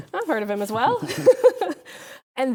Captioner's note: both laughing